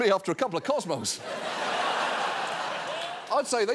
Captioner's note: audience laughing